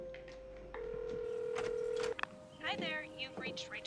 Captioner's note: phone ringing